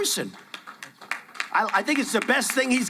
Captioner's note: applauding